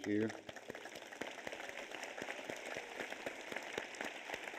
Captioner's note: audience applauds